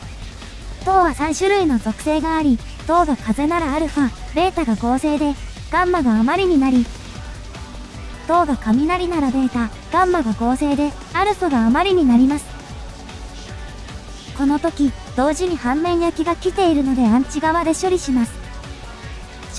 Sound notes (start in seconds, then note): 5.6 wind